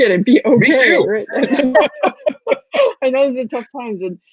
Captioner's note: laughing